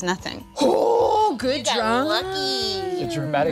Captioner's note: gasping